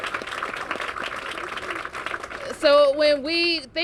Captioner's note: cheers and applause